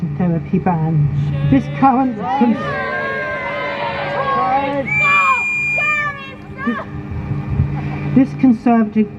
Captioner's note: crowd chants "shame"